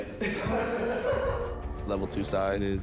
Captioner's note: inmate lauglaughs